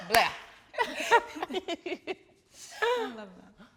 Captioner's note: everyone laughing amusingly